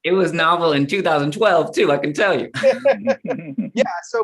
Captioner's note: laughter